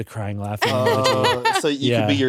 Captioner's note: laughs